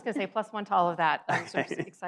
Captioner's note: laughs